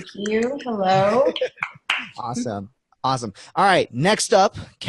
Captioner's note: laughing; clapping